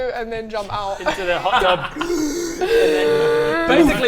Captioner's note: gasp